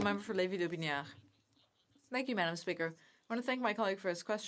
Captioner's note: speaking French